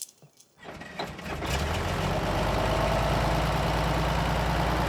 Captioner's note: engine chugging